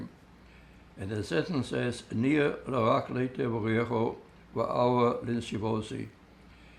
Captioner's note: hebrew